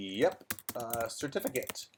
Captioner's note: keyboard clattering